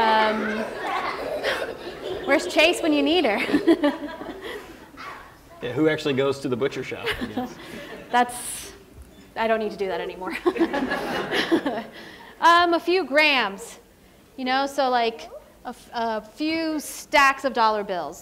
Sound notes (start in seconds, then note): 10.2 laughs